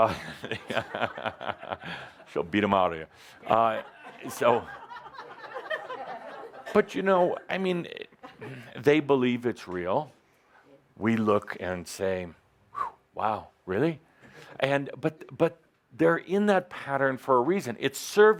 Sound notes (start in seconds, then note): 0.0 some laughter; 0.0 chuckles; 3.5 laughter